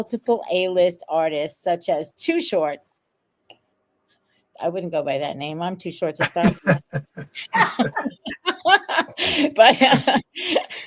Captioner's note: laugh